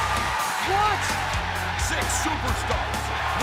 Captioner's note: crowd cheering